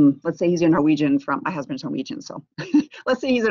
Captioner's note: laughs